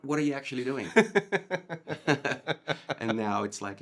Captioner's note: both laughing